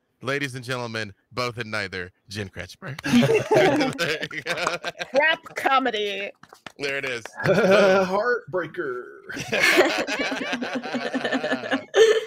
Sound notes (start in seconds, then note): 3.0 everyone applauding; 3.0 laughing; 9.3 everyone laughing